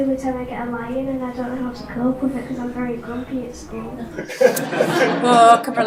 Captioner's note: audience laughs